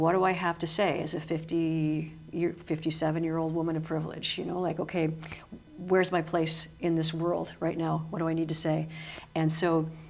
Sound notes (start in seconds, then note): none